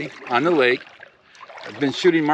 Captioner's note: paddles gently splashing